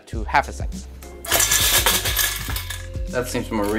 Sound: can shaking

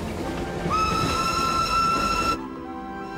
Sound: train Whistle Blows

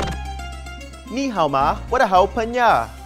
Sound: speaking Chinese

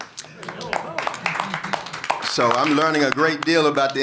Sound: applause

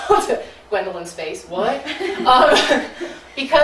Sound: audience laughing

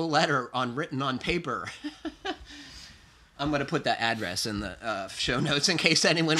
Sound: laughs

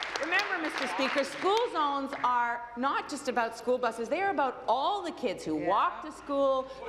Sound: applause

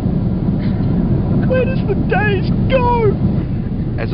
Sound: crying

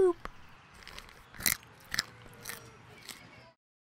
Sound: chewing

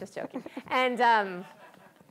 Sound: laughter

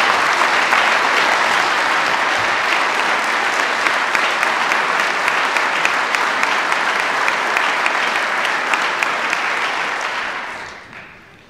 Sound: applause

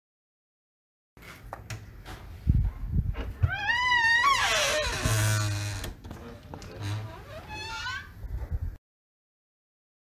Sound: door creaking

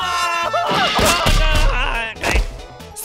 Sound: more groans of pain

